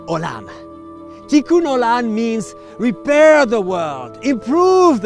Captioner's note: speaking in foreign language